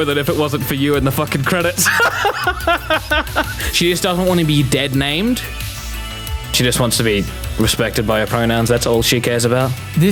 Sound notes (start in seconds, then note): 1.8 laughing